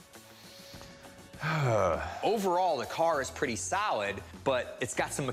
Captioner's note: sighs